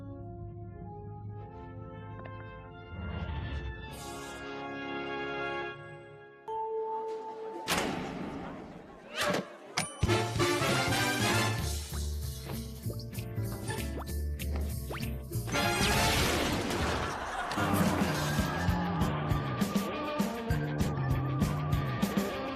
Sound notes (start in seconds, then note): 15.6 explosion; 16.6 audience laughing